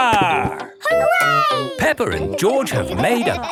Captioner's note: laughing